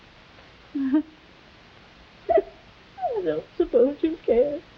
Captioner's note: Veta crying